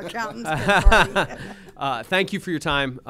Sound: laughter

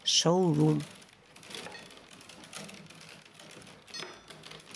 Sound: cracking of the willows in the background

